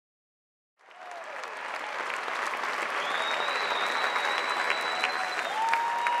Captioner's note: audience applauding and cheering